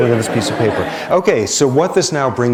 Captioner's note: laughter